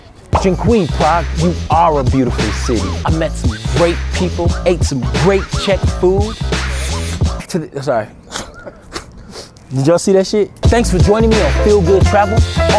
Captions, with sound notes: Dekuji Prague, you are a beautiful city. I met some great people, ate some great Czech food. (sniffs) I'm sorry. Did y'all see that shit? Thanks for joining me on Phil Good Travel.